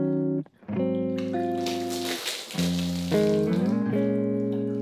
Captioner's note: water rustling